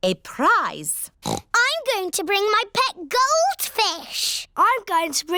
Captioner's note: oinks